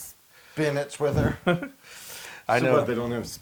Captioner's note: laugh